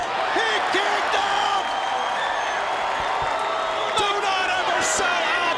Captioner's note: audience cheering